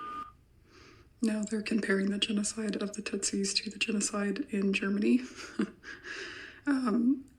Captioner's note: chuckle